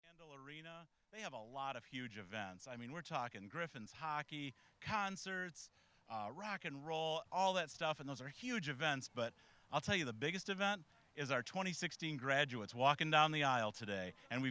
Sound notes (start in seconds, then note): none